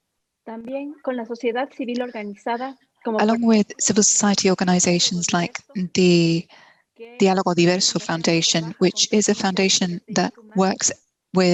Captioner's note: Spanish